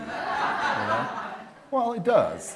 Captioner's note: laughter